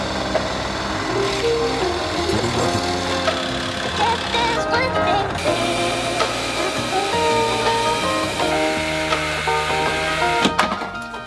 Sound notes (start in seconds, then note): 1.1 rumble of power drill; 4.5 relaxed music